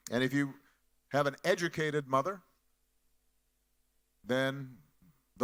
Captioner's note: none